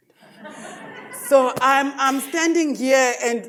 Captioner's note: audience laughs